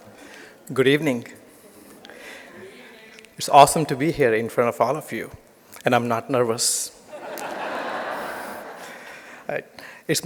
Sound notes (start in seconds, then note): 7.1 laughter